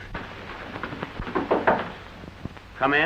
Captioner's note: knocks on door